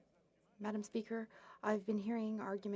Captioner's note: speaking French